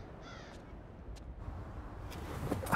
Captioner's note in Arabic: إغلاق باب السيارة